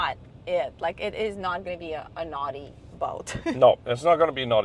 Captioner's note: laughs